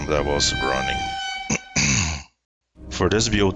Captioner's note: clearing throat